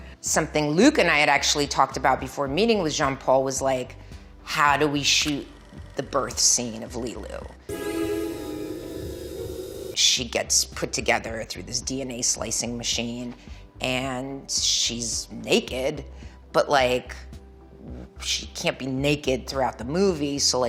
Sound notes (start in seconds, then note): 7.6 gentle string music; 7.7 machines beeping gently